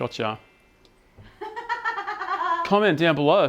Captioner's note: laughing